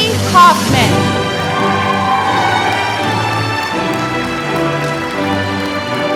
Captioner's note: applause